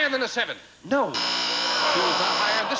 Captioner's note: buzzer sounds